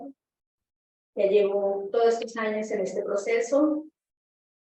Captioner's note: Spanish